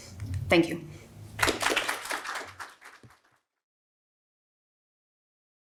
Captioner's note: crowd applauds